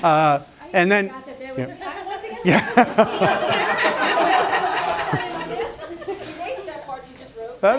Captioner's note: laughter